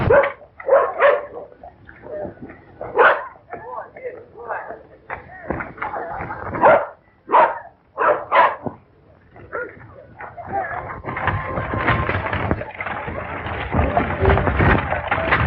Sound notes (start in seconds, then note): 0.0 distant rumbling; 0.3 distant barking; 10.3 distant rumbling